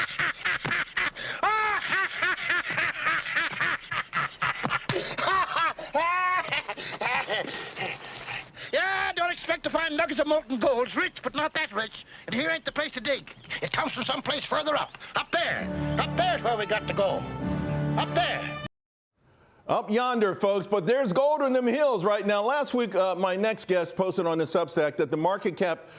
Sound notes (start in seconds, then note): 4.9 laughter